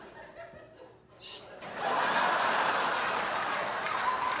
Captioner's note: audience laughs and claps